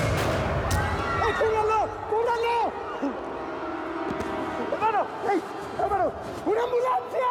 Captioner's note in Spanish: griterío